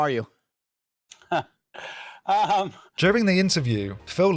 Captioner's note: laughs